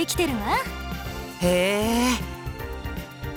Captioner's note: interested hum